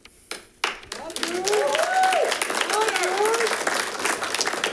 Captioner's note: all clapping